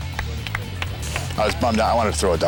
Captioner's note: apapplplauausese